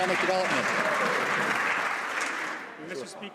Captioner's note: some Applause